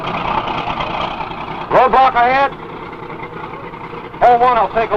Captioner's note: tank engine rumbling